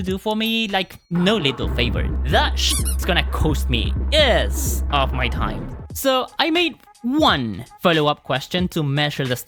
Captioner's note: squeak